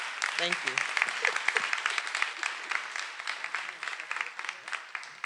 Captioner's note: everyone applauding